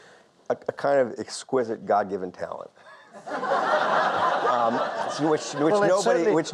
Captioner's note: audience laughs; joking tone